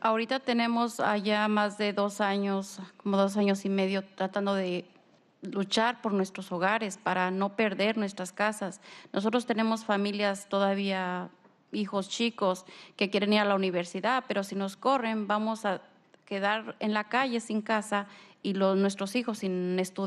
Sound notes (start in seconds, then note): 0.0 speaking spanish; 7.0 speaking spanish; 19.8 speaking spanish